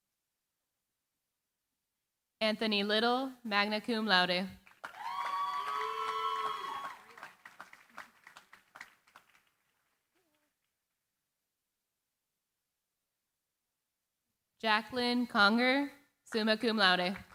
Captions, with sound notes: Anthony Little, magna cum laude. [CHEERING, APPLAUSE] Jacqueline Conger, summa cum laude.